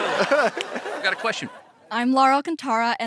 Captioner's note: laughs; audience laughing